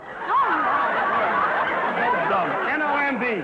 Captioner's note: audience laughter